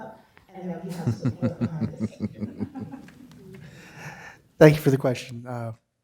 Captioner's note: laughter